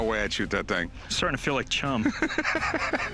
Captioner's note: Rick laughing